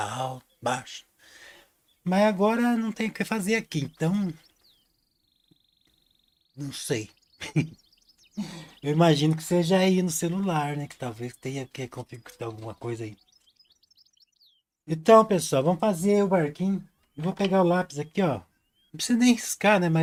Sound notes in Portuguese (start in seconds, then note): 7.4 risadas